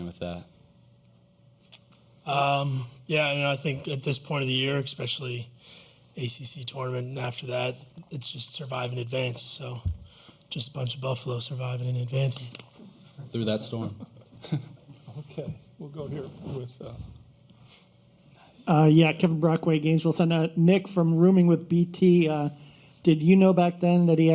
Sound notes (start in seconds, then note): 13.7 laughter